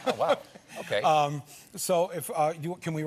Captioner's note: laughter